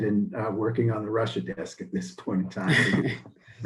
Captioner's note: both chuckle